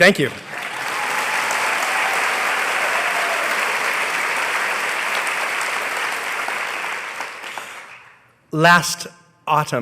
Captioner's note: applause